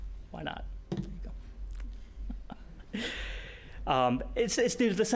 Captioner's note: laughing